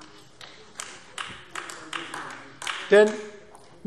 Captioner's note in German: Beifall AfD